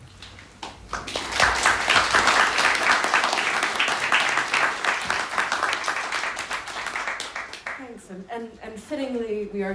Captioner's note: applause